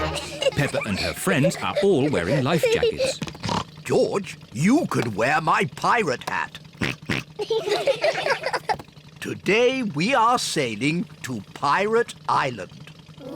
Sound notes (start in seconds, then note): 3.4 oinks; 6.8 oinks; 6.9 all laugh